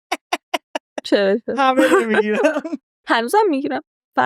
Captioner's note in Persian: خنده